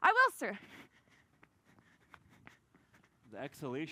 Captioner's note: breathes heavily